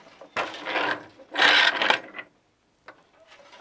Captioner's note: noise of shuttle moving